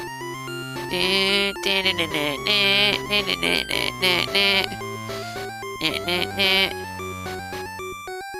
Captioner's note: hums credits theme